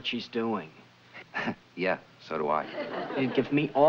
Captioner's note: laughs